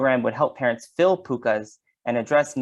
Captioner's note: speaks in foreign language